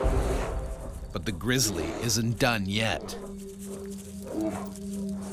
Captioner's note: voiceover